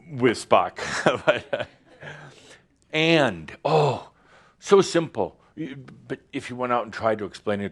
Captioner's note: Adamus chuckles